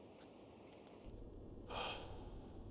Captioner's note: crickets chirping